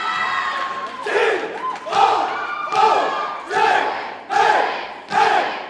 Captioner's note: audience cheers and applauds; cadets chant rhythmically